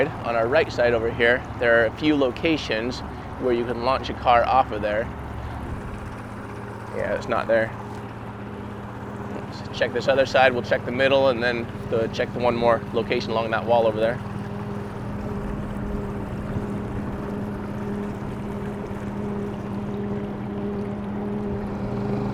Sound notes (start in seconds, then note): 15.3 boat engine droning; 15.3 suspenseful music